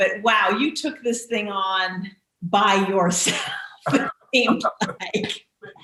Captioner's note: laughing